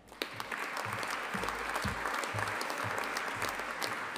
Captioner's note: audience applauding